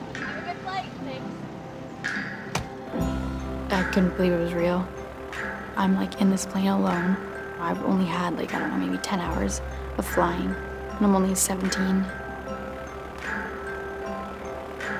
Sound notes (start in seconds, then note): 2.5 door shuts